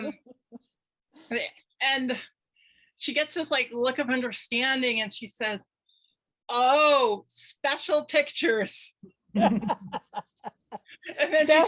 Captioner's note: panel laughs